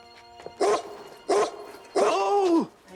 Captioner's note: barking